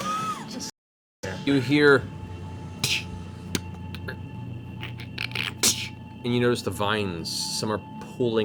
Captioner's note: snapping sounds